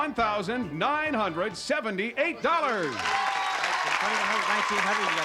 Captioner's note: applause